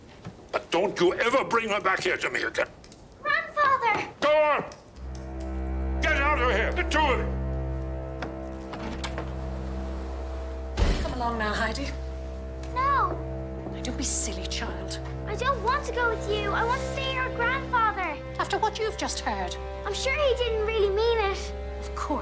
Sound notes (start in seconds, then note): 10.7 door slams shut